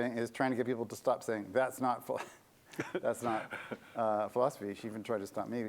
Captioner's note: laughter